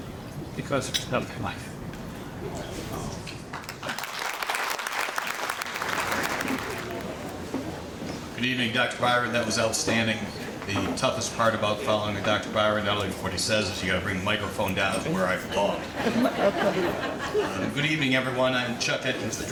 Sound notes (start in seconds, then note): 3.5 audience applauding; 15.4 audience laughing